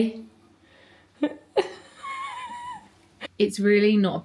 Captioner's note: laughs